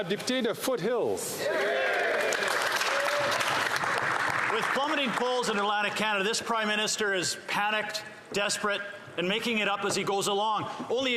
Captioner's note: applause